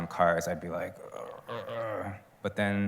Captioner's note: growling